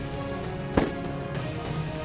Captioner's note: gun shot